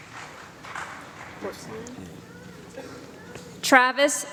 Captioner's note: applause